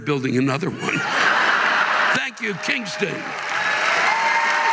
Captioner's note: audience laughing